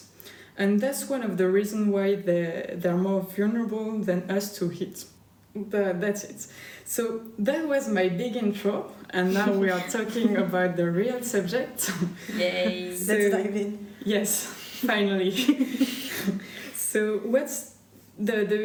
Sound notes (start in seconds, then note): 15.3 laughter